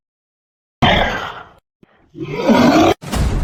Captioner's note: monster Roar; war Drums